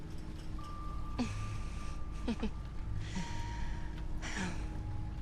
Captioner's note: Isabelle chuckles